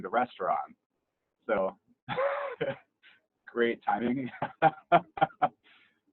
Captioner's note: laughs; laughs loudly